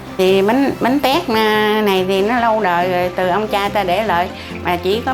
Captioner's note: woman speaking in foreign language